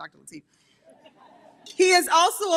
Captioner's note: audience chuckles